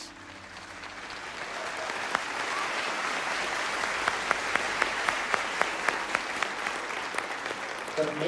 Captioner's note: loud applause